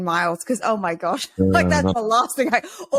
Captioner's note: laughs